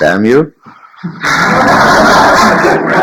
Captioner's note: general laughter